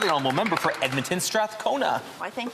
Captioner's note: some Applause